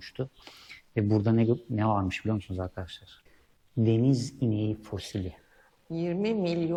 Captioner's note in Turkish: homurdanır